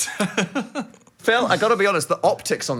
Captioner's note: laughing